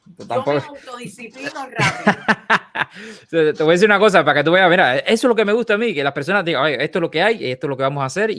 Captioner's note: laughs